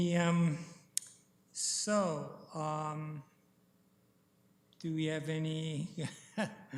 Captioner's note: chuckles